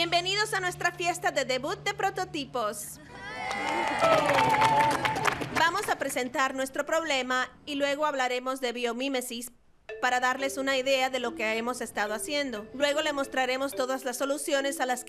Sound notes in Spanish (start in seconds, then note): 3.1 todos aclamando y aplaudiendo